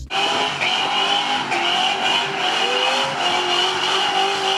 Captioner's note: car engine revving